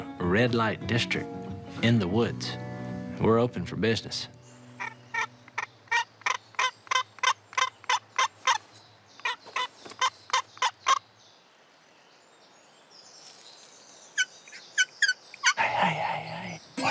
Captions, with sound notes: district in the woods. And we're open for business. [turkey call clucking] [HIGH PITCH TURKEY CALL SQUEALING] Hey, hey, hey.